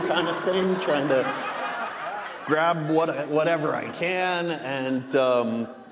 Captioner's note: audience laughing